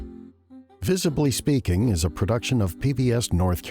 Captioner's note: voiceover